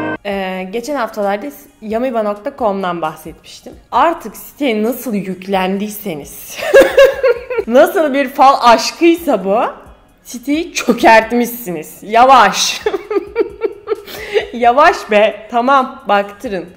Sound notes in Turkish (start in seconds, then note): 14.0 nefes alıyor